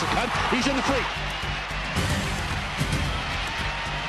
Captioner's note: crowd cheering